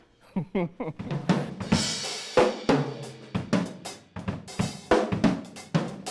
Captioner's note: chuckling; playing the drums